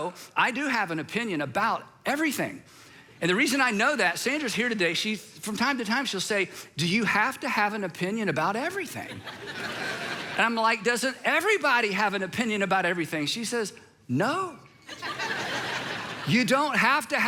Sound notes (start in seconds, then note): 9.0 congregation laughs